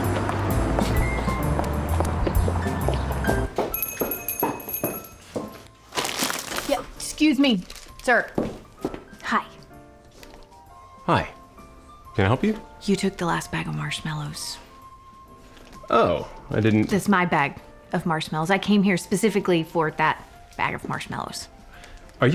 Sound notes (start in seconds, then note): 1.9 footsteps; 3.7 doorbell jingles